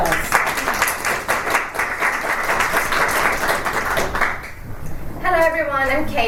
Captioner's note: applause